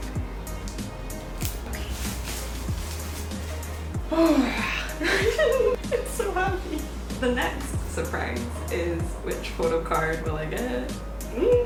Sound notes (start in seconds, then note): 4.1 sigh of relief; 5.0 giddy giggling